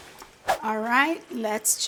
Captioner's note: screen whooshes